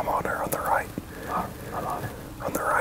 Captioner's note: whispering